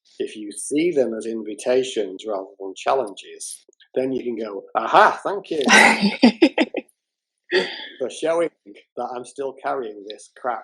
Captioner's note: laughter